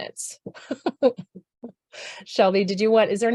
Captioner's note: laughs